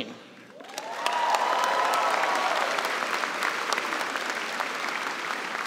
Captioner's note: cheers and applause